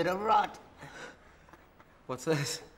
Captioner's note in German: lacht; atmet scharf aus